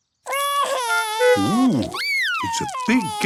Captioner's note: cries